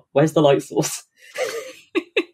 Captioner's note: laughs